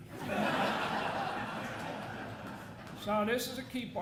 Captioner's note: audience laughing